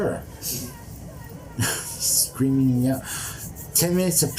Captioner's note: chuckles